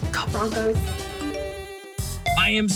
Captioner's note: woman whispers; phone rings